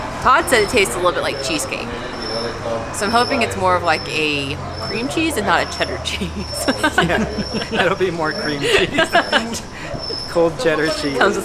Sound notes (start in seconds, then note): 6.7 laughs; 9.6 laughs